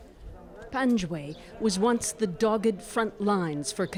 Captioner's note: speaking Foreign Language